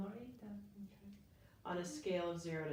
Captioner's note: speaking faintly